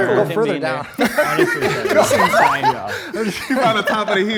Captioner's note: group laughs